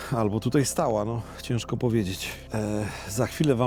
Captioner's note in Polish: none